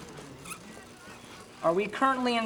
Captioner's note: machine whirring